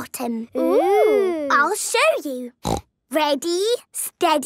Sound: snorting

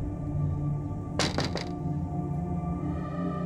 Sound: door knocks; suspenseful music

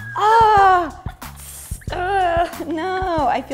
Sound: weird sizzling noises; sounds of true pain

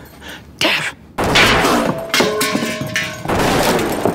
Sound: gun fires

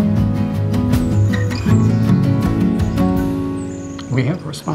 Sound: birds chirping

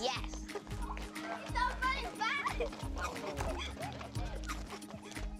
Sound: overlapping chatter, laughter

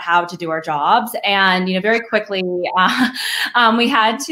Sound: chuckles

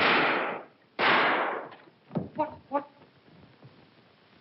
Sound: gunshots

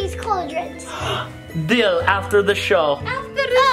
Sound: gasps

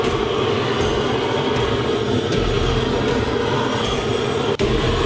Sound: flames smoldering

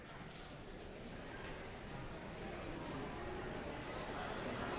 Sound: background chatter

